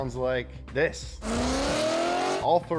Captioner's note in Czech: řev motoru